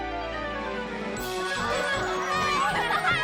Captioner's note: laughter